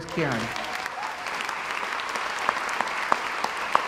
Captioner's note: crowd applauds